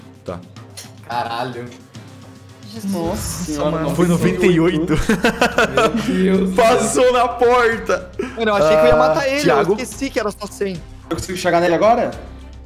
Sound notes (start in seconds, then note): 2.8 laughs